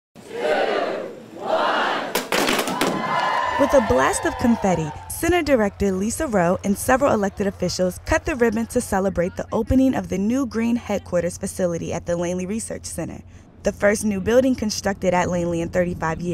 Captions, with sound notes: [TWO, ONE, CHEERING] With a blast of confetti, Center Director Lesa Roe and several elected officials cut the ribbon to celebrate the new green headquarters facility at the Langley Research Center, the first new builiding constructed at Langley in